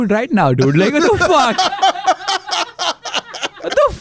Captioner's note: laughs